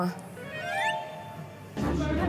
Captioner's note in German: Neugieriger Klang